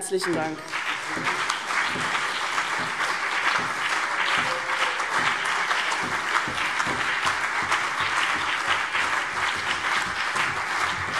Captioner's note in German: Lang anhaltender Beifall CDU und BÜNDNIS 90/DIE GRÜNEN